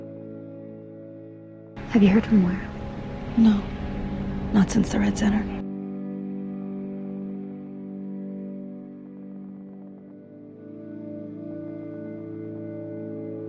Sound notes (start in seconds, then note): 1.9 voiceover